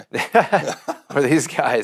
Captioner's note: laughing